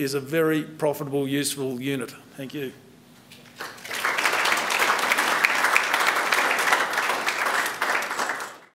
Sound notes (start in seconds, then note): 3.4 applause